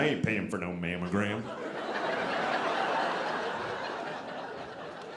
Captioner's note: audience laughing